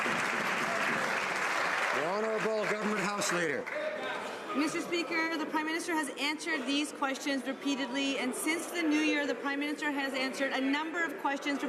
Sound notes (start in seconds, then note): 0.0 some Applause